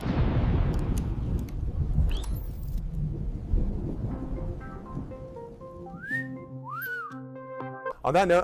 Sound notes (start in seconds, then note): 3.1 thunder